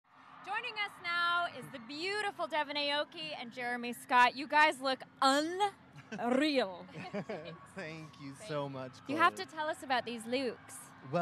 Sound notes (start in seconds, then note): 0.1 crowd cheering; 6.0 interviewer laughing; 6.8 group laughing